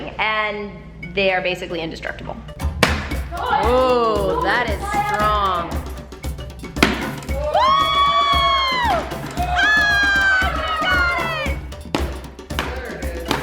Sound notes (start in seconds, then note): 7.2 family cheering